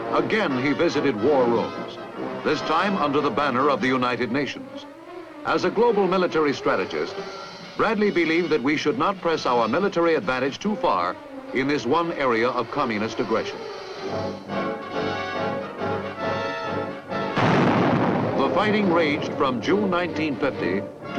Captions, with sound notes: Again, he visited war rooms, this time, under the banner of the United Nations. As a global military strategist, Bradley believed that we should not press our military advantage too far in this one area of communist aggression. (intense orchestral music) (bomb exploding) The fighting raged from June 1950